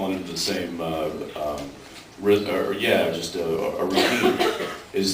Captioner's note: off mic